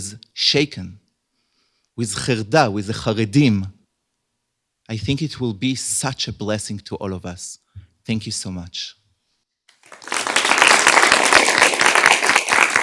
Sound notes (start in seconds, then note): 2.4 hebrew; 9.7 applause